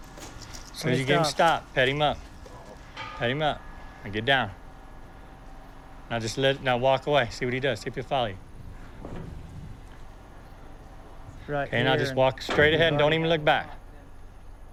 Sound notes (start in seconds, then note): none